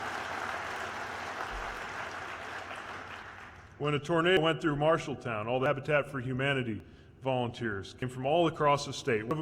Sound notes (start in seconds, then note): 0.0 cheers/applause